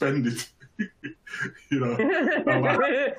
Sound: chuckles

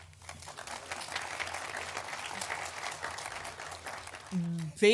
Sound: audience applauding

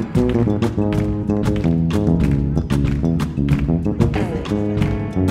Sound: audience clapping on beat

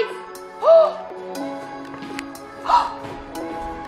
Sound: mom gasping

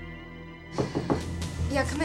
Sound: knocking

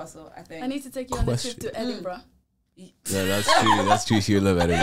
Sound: laughs

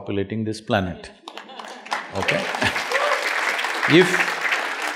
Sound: applause

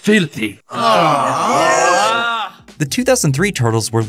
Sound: groaning

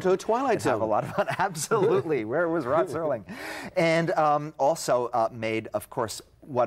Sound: laughing

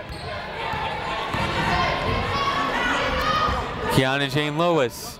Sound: people shouting in the crowd

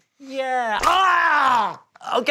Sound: screams

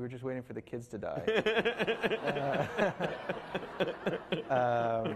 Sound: laughing

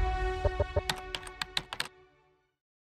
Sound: typing sounds

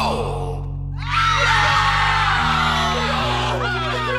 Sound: screaming

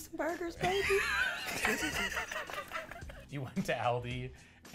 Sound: both laugh

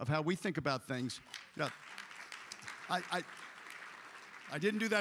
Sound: applause

